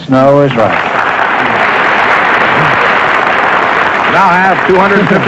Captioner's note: applause